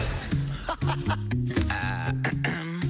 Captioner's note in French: laughs